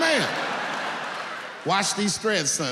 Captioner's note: audience laughing